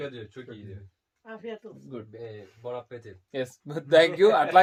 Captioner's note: speaking in Foreign language